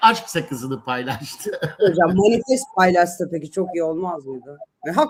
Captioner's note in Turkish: kahkaha